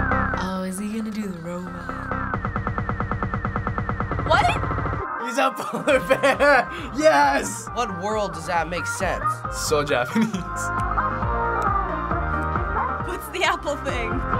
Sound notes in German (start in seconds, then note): 5.5 lachen; 10.7 mit schnipsen